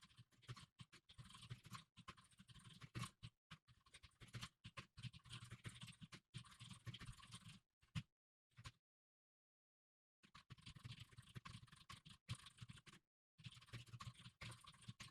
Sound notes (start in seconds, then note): 4.3 typing sounds